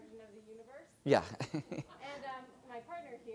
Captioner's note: laugh